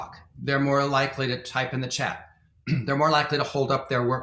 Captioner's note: clears throat